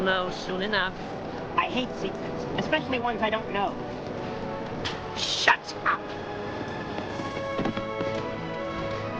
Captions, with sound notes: - You will know soon enough. - I hate secrets, especially ones I don't know. (slap) - Shut up! (horses galloping)